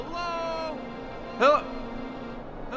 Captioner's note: shouting; shouting